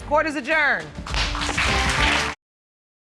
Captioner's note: applause